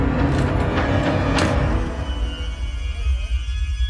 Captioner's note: door closes